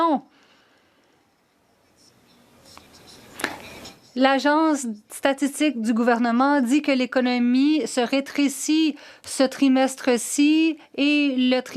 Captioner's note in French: voix de l'interprète